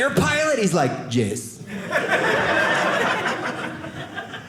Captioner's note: audience laughing